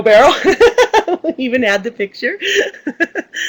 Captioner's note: laughs